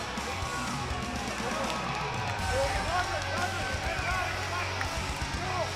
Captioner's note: cheers and applause